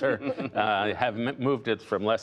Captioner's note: laughter